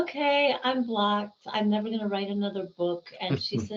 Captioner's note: laughing